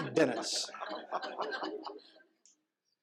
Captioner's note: laughter